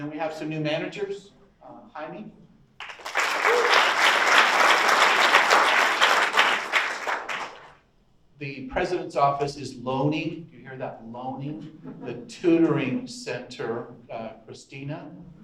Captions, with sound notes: Then we have some new managers. Jaime? (audience applauds) The President's Office is moaning. You hear that moaning? The Tutoring Center, Christina?